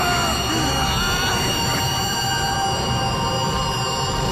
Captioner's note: Persephone screaming; creatures screeching; men groaning